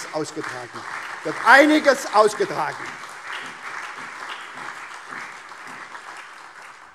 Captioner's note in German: Beifall SPD, CDU, BÜNDNIS 90/DIE GRÜNEN, Freie Demokraten und vereinzelt AfD